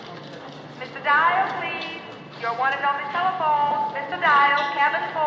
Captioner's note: over P.A